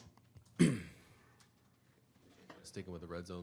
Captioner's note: throat clearing